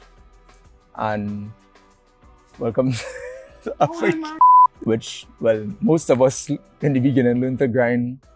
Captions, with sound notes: And welcome (laugh) .. (beep) which well, most of in the beginning learned to grind